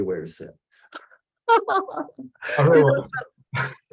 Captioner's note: laughter